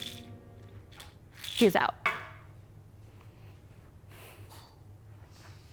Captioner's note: pills rattle; container thuds